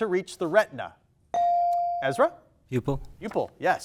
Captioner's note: buzzer dings